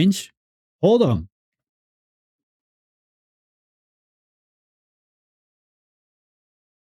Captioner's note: silence